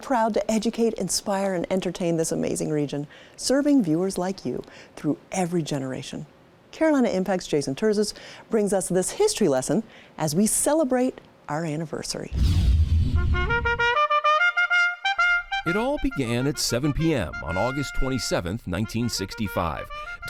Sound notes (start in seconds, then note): 12.3 dramatic whooshing; 13.1 upbeat horn music